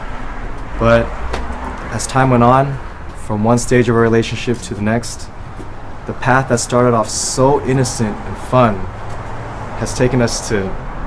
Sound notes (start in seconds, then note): none